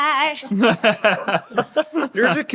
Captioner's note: group laughing